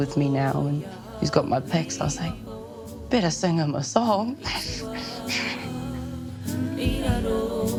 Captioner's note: chuckles